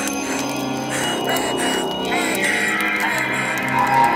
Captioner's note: Elizabeth crying